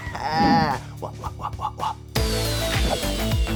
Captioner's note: exclaims; laughs; upbeat music